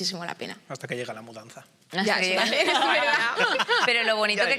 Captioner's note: laughter